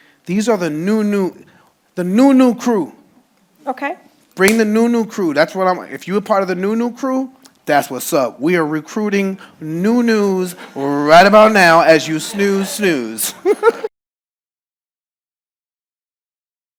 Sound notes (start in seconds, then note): 13.2 laughing